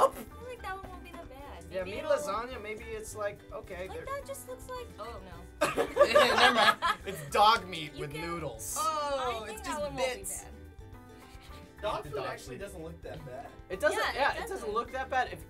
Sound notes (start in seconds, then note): 5.6 laughter